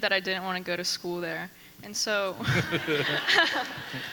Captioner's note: people laughing; laughs